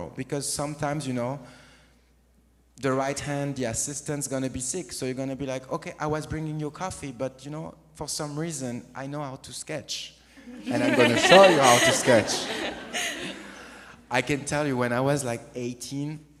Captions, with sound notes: Because sometimes, you know, the right hand, the assistant's gonna be sick. So you're gonna be like, "Okay, I was bringing you coffee, but, you know, for some reason, I know how to sketch, [AUDIENCE LAUGHS] and I'm gonna show you how to sketch." I can tell you, when I was, like, 18...